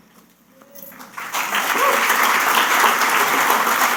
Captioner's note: applause